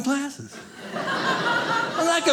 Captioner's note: audience laughing